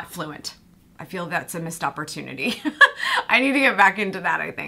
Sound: laughs

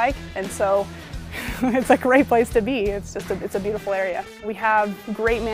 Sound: laugh

